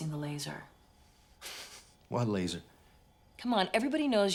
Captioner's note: laughs